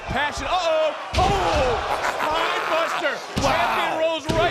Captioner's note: Booker laughs